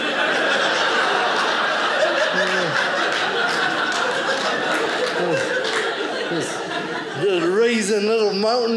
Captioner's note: audience laughing